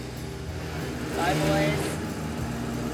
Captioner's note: van starting